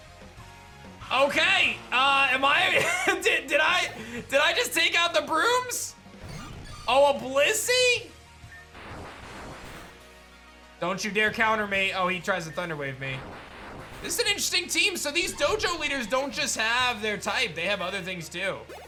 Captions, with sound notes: Okay. Am I... (chuckles) Did I... Did I just take out the brooms? Oh, a Blissey. Don't you dare counter me. Oh, he tries to Thunder Wave me. This is an interesting team. So, these dojo leaders don't just have their type. They have other things too.